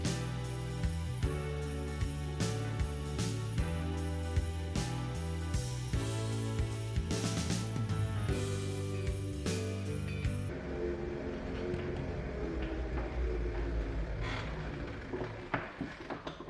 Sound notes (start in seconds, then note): 11.3 wheelchair rolling